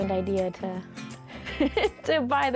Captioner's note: laughs